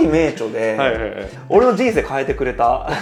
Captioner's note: laughs